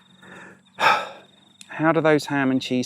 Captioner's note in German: seufz